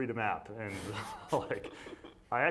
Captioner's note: laughing